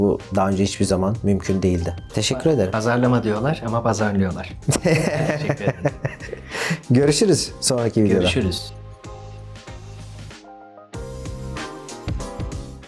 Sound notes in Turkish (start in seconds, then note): 4.6 kahkaha